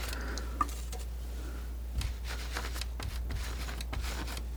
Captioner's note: scratching